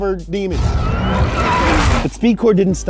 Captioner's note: tires screaming